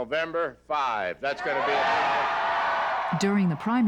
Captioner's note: applause